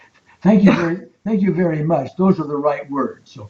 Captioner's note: chuckling